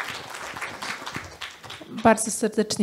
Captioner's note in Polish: Aplauz